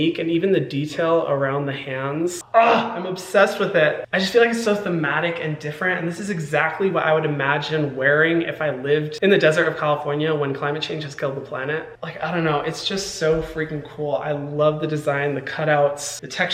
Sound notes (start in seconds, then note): 2.5 Hyram growling